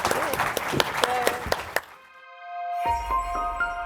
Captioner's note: audience applauds; gentle music